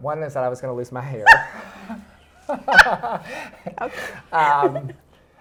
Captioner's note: both laughing